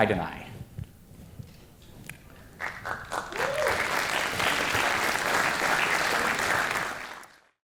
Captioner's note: audience applause